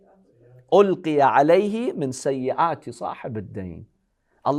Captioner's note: Arabic